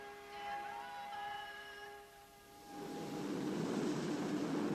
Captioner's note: Dan Roebuck echoing; wind whooshing